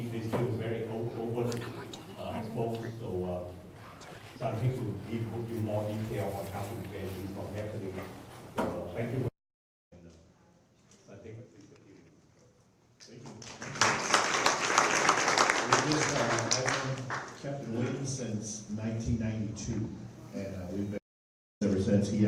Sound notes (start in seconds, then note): 13.2 applause